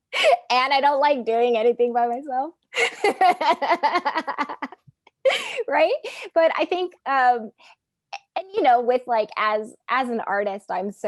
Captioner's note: laughing